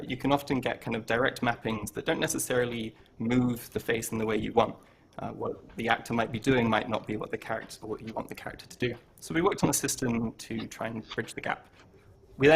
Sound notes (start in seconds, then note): none